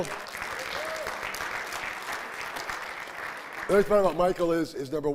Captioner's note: audience applauding and cheering